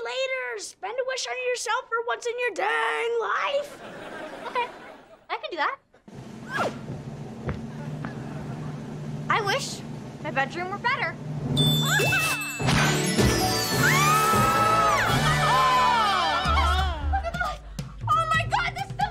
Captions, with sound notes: Spend a wish on yourself for once in your dang life. Okay, I can do that. I wish my bedroom were better. [screaming] Oh, my God! Oh, my God, this is amazing!